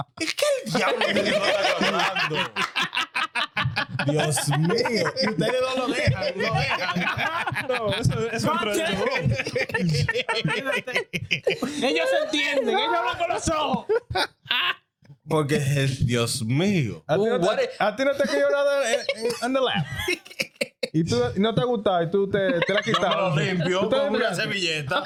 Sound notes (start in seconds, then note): 0.2 laughing; 0.2 speaking In Foreign Language; 7.3 crowd Laughs; 9.5 laughing; 9.5 speaking In Foreign Language